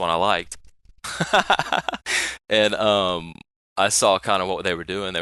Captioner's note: laughing